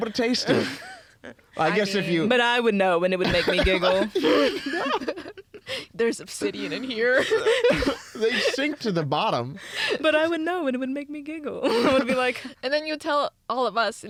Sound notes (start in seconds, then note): 7.4 laughing